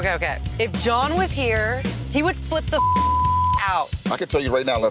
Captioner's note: beep